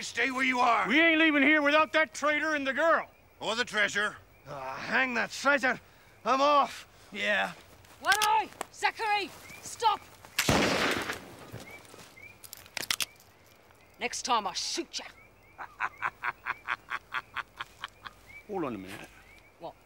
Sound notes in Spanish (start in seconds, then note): 10.4 cañonazo; 15.5 risas